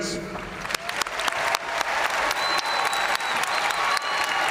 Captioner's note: audience cheering and applauding